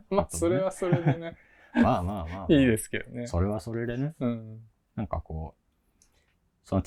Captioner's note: laugh